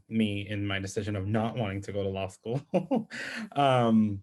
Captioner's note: chuckles